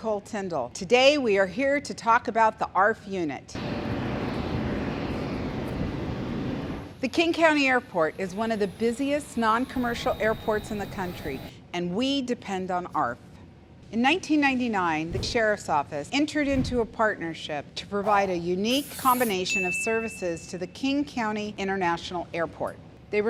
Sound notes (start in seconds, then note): 3.6 planes roaring